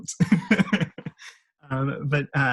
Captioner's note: laughs